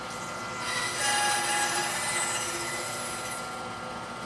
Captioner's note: tool squealing